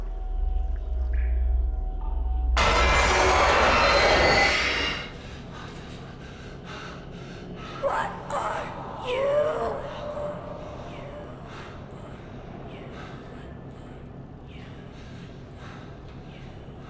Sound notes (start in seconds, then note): 2.5 sudden screeching music; 5.2 Clint panting; 10.2 Clint panting